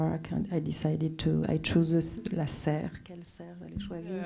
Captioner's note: speaking French